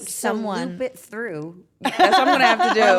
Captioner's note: laugh